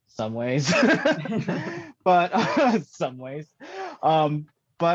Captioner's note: laughs